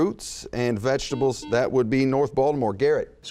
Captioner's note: buzzing